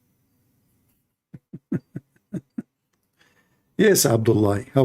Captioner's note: Ketawa